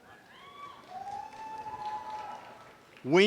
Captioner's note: audience cheering and applause